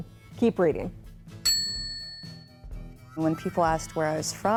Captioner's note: bell chimes